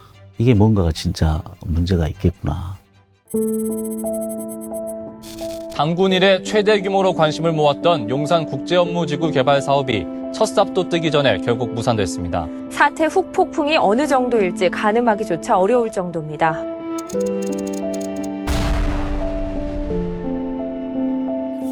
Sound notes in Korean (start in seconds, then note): 3.3 잔잔한 음악; 3.3 다이얼 소리